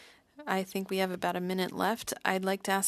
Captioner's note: speaking French